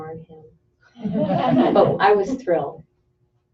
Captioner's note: laughter